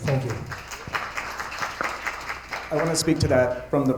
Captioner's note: attendees applauding